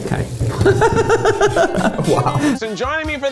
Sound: laughing

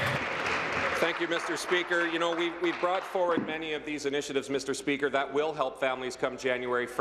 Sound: applause

